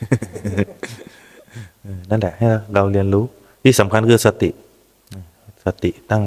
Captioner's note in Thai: เสียงหัวเราะ